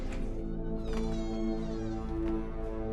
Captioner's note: door creaking